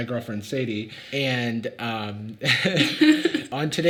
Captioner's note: laughs; Sadie laughs